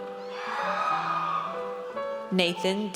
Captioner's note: audience cheers